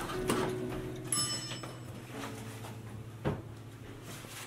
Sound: elevator dings

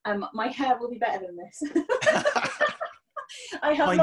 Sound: laughing

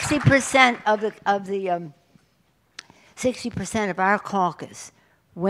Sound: applause

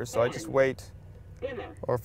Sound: car voice

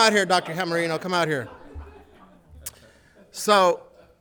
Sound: audience laughing

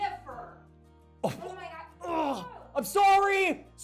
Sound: grunts

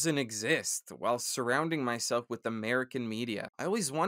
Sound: dejectedly

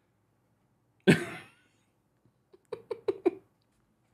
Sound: laughing

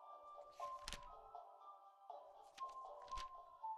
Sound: magazine pages flipping

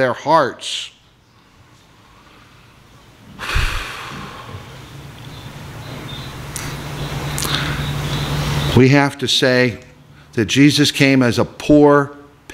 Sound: sigh

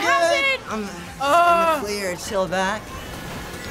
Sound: groans

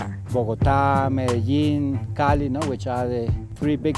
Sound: man speaking Spanish

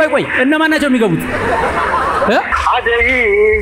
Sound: laughter

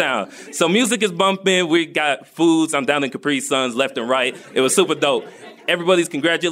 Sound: laughter

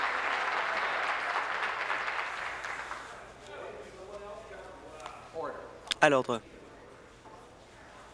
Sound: applause

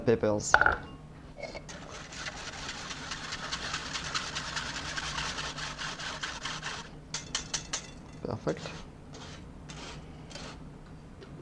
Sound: whisking sounds

